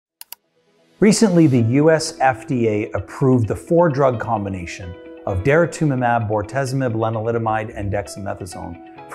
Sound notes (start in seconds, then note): 0.2 cursor clicking; 1.0 light music